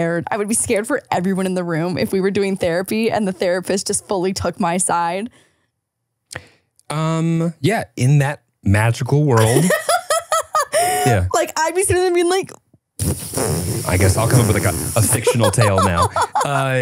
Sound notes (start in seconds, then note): 9.4 laughing; 13.1 stifles laughter